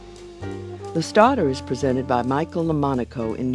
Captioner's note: voiceover